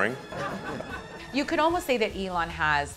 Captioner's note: audience laughing